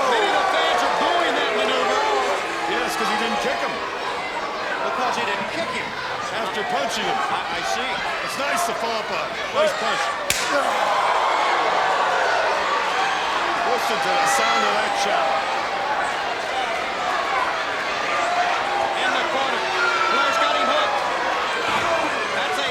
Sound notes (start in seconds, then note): 10.8 crowd gasping and cheering